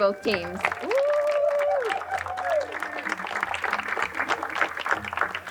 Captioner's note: crowd cheering and applauding